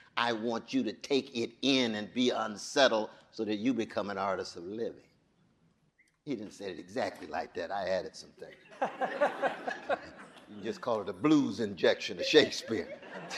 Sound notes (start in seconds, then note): 8.6 audience laughing